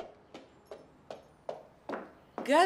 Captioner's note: footsteps approaching